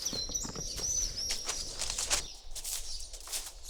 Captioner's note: birds chirp